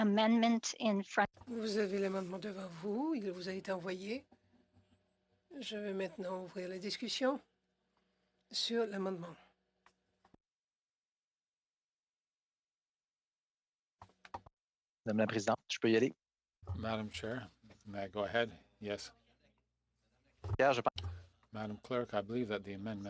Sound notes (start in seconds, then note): 7.6 speaking French